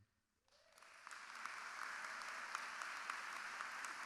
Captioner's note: crowd applauding